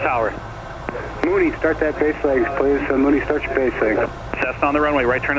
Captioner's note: air traffic control drowned out by static